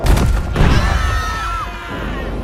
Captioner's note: screaming